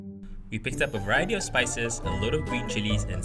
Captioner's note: voiceover